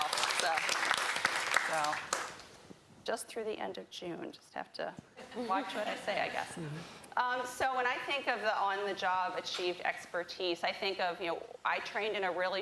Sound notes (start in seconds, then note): 5.2 laughter